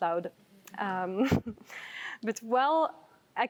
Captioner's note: chuckles